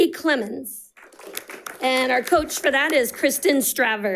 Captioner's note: audience applauding